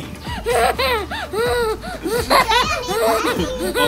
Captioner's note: laughing